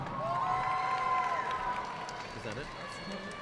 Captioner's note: audience cheering and applauding